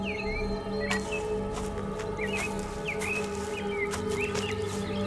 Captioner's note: leaves crunching